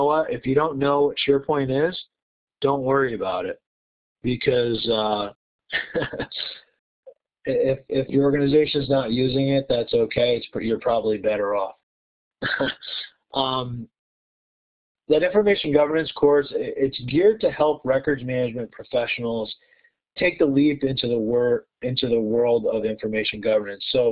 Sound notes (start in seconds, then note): 12.4 laughter